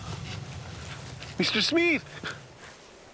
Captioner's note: footsteps